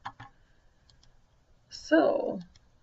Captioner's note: computer mouse clicks